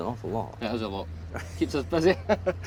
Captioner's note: laughs